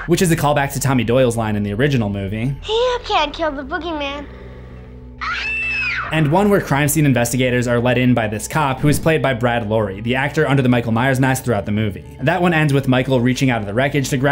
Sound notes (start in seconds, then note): 5.2 kid screams